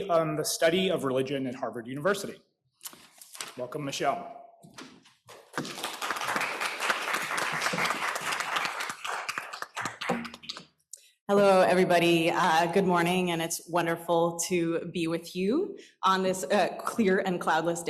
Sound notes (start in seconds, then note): 5.3 applause